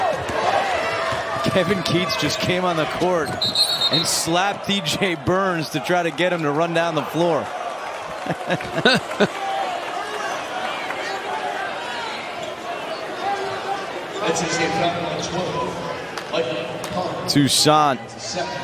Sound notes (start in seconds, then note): 8.0 laughter